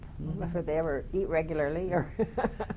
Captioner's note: laughing